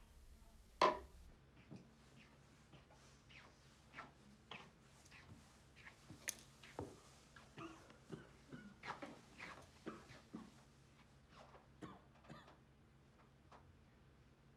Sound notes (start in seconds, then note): 7.5 coughing